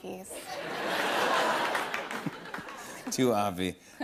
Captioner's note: laughter